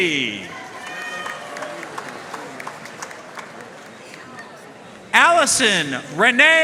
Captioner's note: audience cheering and applauding